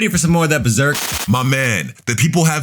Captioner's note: TV static running